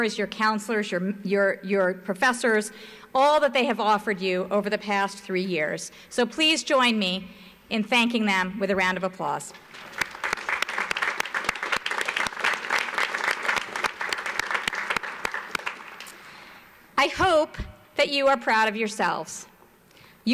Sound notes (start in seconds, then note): 9.7 audience applauds